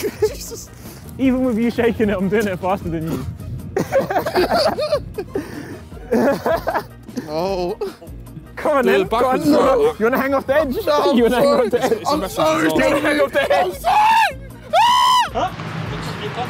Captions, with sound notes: - Even with you shaking him, he's been faster than you. (laughs) - C'mon man. - You're gonna hang off the edge? (laughs) - I'm sorry, I'm sorry! (screams)